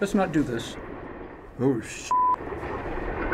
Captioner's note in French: bip